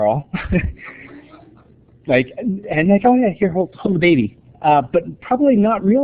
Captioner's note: laughter